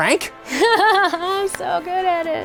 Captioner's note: laughing